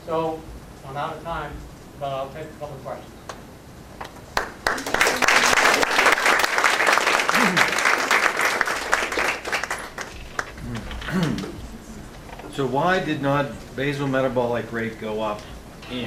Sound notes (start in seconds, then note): 4.3 applause